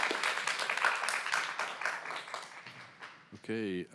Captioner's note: applause